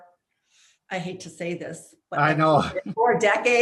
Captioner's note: laughs